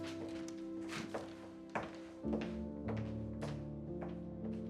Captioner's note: heels clack